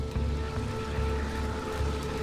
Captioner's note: locusts fluttering